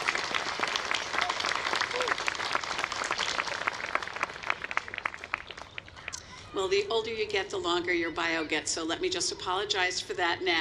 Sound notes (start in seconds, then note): 7.1 applause